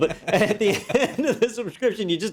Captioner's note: laugh